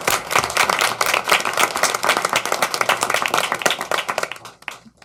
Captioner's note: applause